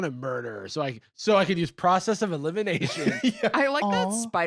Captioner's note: laughs